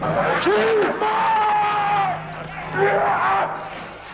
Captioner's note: shouts